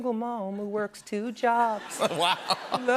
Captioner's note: laughter